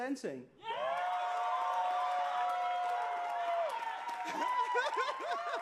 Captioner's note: cheers and applause